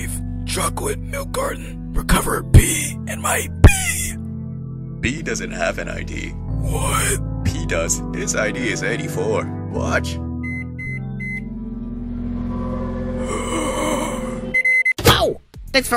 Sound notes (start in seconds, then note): 10.3 microwave whirring; 10.4 microwave beeping; 13.2 croaking